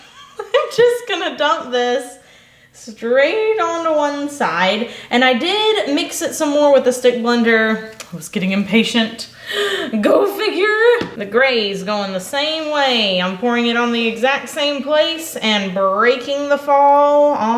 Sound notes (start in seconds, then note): 0.0 laughs; 9.4 gasps